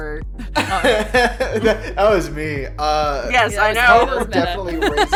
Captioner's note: laughs